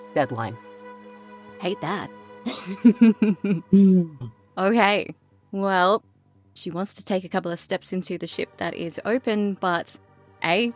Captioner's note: chuckles